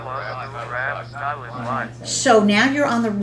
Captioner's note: calculator voices